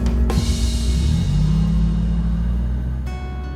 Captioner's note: engine rumbling; soft orchestral music